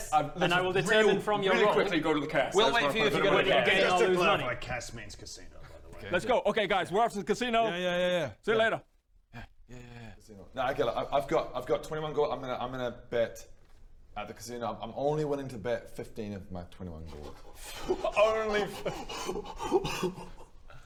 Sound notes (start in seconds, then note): 17.6 sharp intake of break; 19.3 shocked laughter